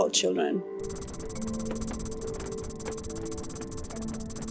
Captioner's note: keyboard tapping